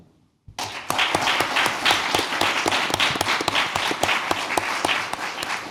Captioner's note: applause